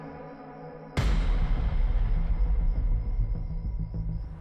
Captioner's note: dramatic boom